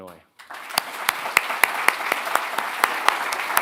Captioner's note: applause